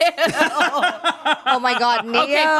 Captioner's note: everyone laughs